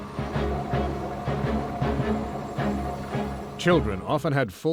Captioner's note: machine rumbling